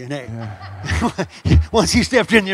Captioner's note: audience laughs